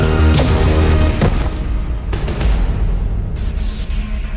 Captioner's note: explosion